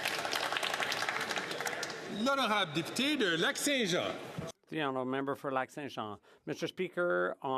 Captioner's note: some Applause